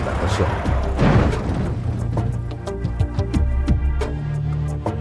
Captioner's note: loud crashing